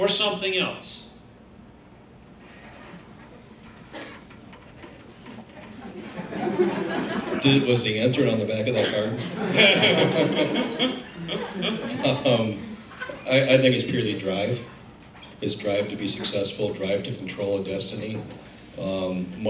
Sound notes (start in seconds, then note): 9.1 laughing